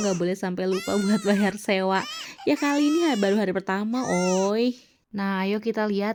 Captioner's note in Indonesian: menangis